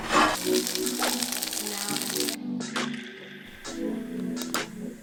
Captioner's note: pan sizzling; relaxed music